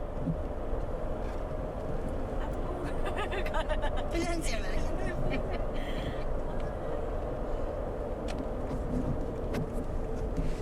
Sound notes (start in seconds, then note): 3.7 speaking in Sherpa language